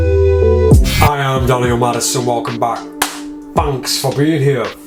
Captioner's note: clapping